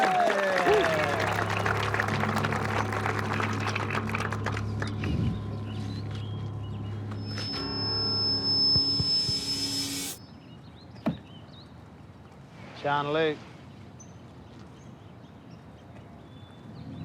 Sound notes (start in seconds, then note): 0.0 cheering and applause